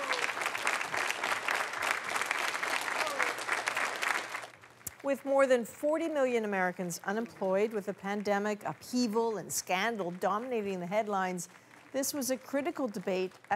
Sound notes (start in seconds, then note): 4.3 applause